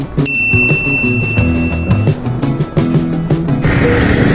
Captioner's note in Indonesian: lonceng